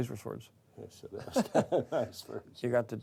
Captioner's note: Ambos riem